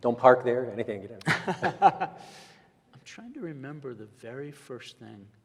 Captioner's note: laughs